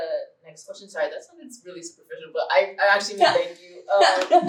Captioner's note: laughter